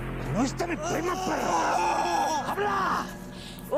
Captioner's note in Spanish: Gritos